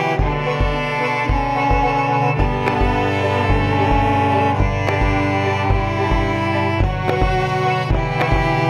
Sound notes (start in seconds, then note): 2.9 hands tapping; 2.9 light music continues